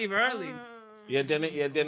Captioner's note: speaking In Foreign Language